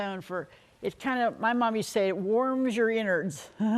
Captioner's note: giggles